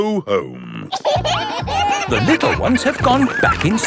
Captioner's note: kids giggling